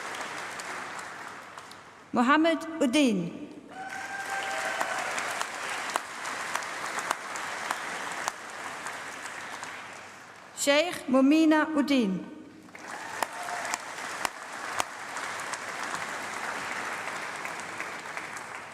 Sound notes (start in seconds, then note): 0.0 applause; 12.6 applause